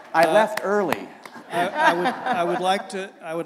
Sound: laughter

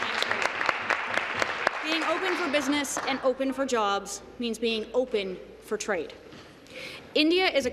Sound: applause

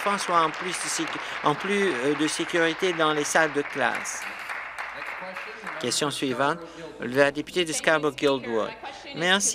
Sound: applause

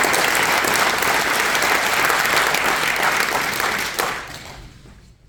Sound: audience applauding

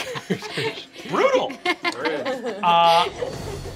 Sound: laughing

